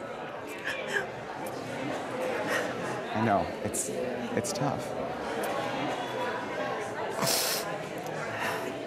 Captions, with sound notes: (sobbing) I know, it's-- it's tough. (sniffling)